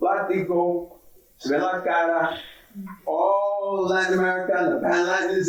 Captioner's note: speaking in foreign language